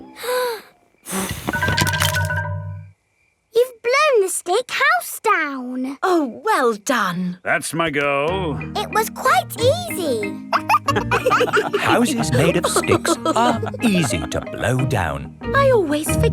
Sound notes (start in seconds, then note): 1.0 blowing; 10.4 wolves laughing